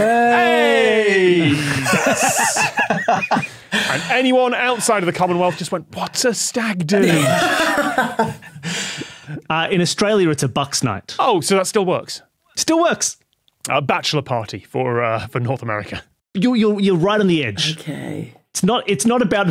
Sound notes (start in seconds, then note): 1.0 laugh; 6.9 guests laughing